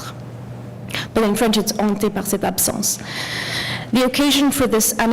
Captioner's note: french